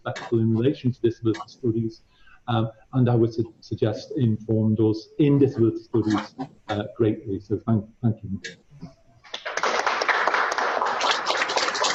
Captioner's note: applause